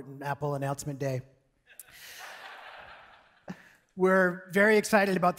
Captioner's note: audience laughing